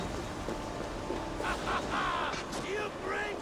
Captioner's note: laughs